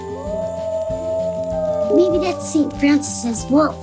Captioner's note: wolf howling